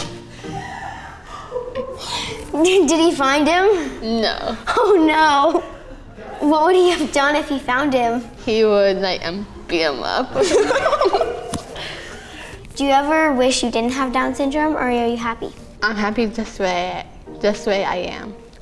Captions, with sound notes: (all laughing) - Did he find him? - No. - Oh no! What would he have done if he found him? - He would like, beat him up. (all laughing) - Do you ever wish you didn't have Down syndrome or are you happy? - I'm happy just the way I am.